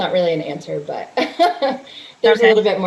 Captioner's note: chuckles